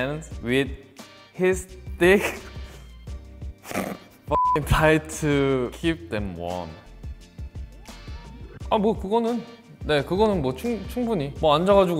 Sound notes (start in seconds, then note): 2.1 chuckles; 4.3 beep; 8.7 speaks Korean